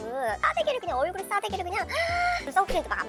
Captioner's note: slap slap slap